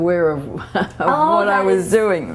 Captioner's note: laughter